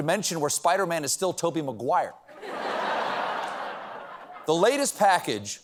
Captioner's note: laughter